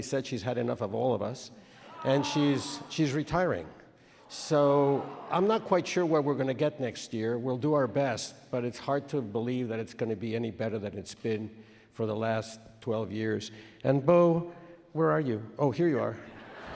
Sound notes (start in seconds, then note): 1.8 audience makes noises of dismay; 4.4 audience boos